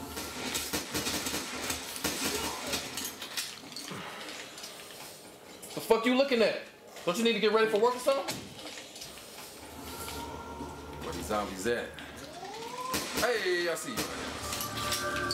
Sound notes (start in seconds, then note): 0.1 guns firing